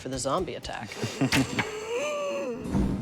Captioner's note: laughs